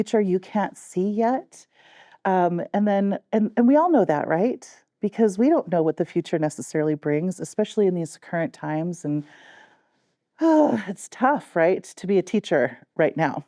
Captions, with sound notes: you can't see yet? And then-- and we all know that, right? Because we don't know what the future necessarily brings, especially in these current times. (Sighs) It's tough, right, to be a teacher right now.